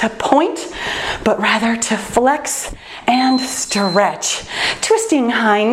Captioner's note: timer beeps